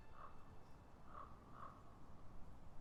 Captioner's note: crow calling